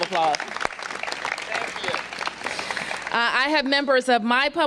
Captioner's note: applause